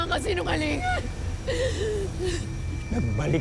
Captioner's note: sobs